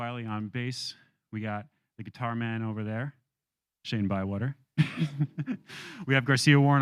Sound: laughs

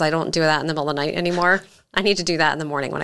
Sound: giggles

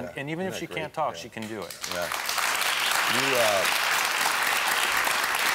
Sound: audience applauding

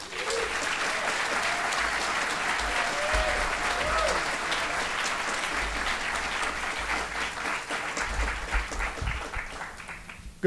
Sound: applause

